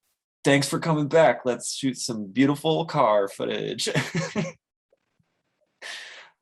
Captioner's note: laughs